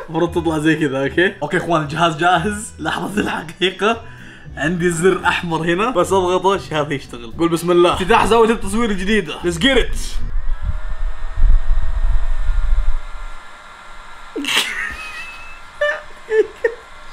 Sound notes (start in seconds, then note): 10.0 fan starts; 14.4 laughs